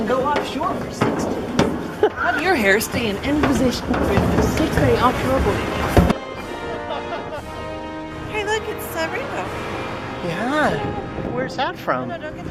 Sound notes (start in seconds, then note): 6.5 giggling